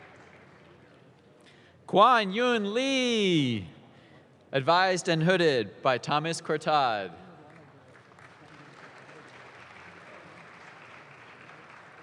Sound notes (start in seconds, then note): 7.4 audience claps